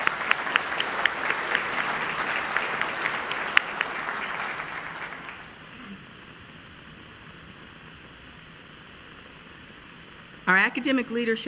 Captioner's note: applause